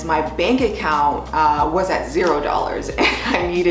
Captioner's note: laughs